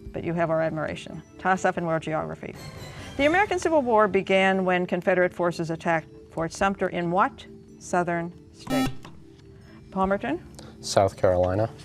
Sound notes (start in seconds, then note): 8.6 beep